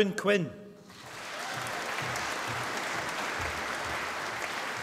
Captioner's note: applause